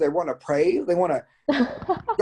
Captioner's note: chuckles